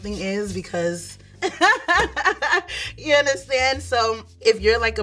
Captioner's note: laughing